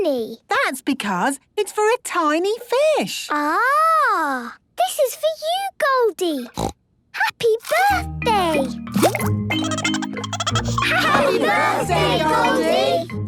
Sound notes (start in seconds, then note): 6.5 snorting; 9.6 Goldie giggling